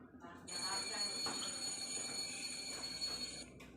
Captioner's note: ringing ~~ ringing ~~